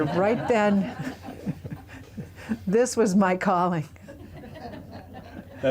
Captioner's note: laughter